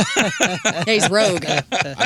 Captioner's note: laughing